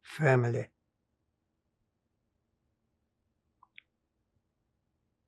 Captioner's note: pauses 6 seconds